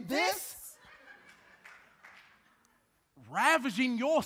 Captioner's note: audience laughing; audience clapping